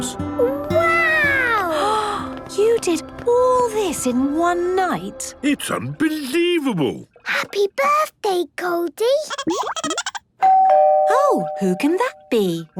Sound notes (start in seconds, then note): 9.3 Goldie giggling; 10.4 doorbell ringing